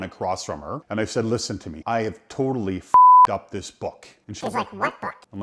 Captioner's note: beep